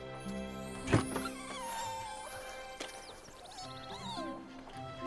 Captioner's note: puppy whimpering